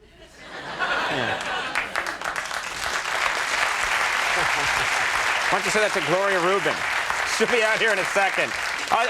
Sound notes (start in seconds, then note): 0.6 audience laughing; 0.8 audience clapping